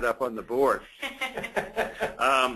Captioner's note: laughter